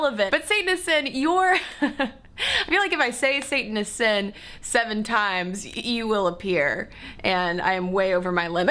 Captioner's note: laughter